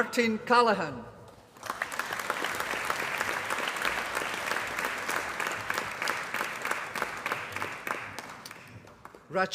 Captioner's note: applause